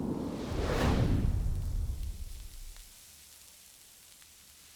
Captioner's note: sizzling